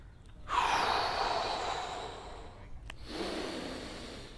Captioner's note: exhales; inhales